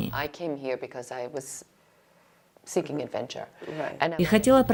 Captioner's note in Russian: Разговаривают на английском